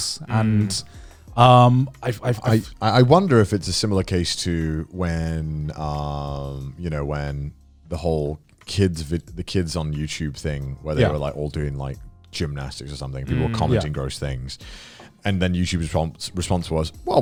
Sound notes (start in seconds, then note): 14.8 affirmative murmuring